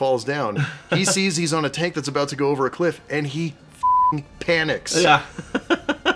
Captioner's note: beeping